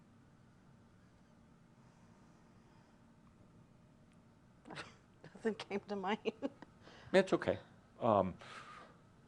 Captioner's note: she chuckles